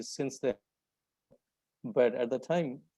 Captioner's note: audio cuts out